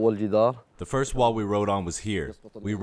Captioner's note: through translator